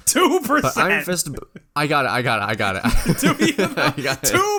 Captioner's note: laughs